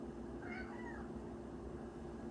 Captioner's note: meooow